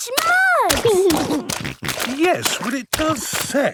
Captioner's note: snorting